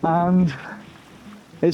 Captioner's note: laughs